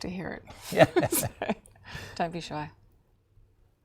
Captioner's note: laughing